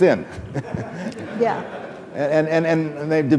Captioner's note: laughing